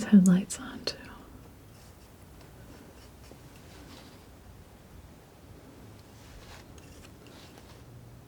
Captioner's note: scissors snipping